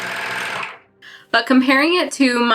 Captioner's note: machine noise